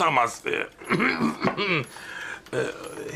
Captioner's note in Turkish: Öksürme sesi